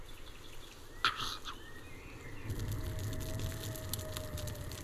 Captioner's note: animal Howls